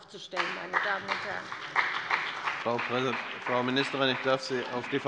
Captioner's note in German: Beifall bei der CDU und dem BÜNDNIS 90/DIE GRÜNEN